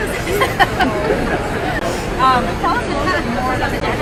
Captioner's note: laughs